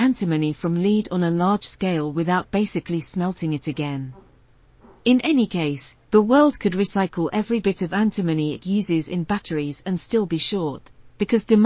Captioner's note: or perhaps squeals